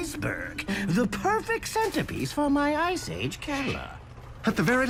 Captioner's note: none